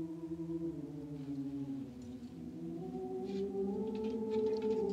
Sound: people humming

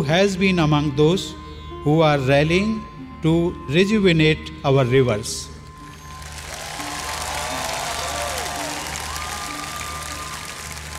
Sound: applause

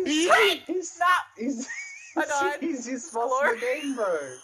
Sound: laughing in end game

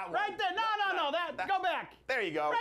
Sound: none

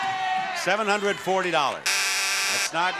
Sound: buzzer blares

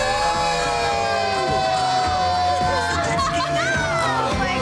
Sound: cheering; laughing

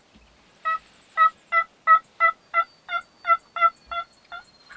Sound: turkey yelping

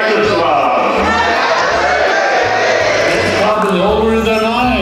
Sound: crowd In Unison

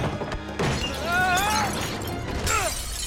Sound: scream

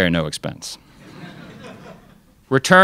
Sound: crowd laughs

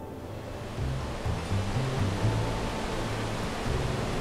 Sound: water gushing

